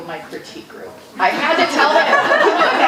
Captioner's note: audience laughing